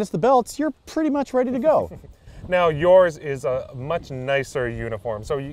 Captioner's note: laughing